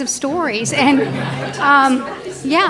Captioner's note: audience laughs